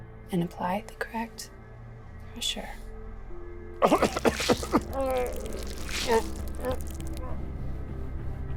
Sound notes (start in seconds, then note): 3.8 coughs